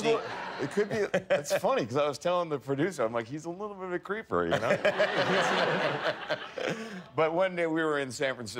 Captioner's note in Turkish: kahkahalar